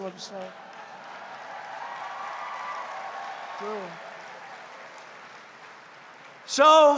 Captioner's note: laughter and applause